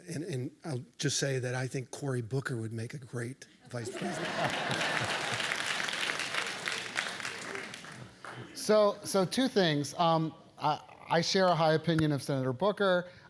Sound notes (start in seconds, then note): 3.8 laugh; 3.9 applause